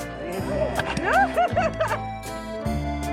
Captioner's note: laughing; polka music